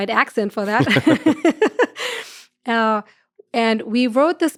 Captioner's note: laughs